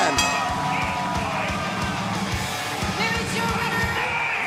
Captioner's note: bell ringing